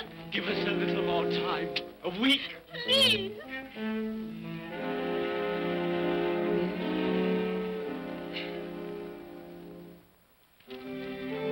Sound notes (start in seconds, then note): 4.4 ominous music; 8.1 woman sobs; 10.6 ominous melancholy music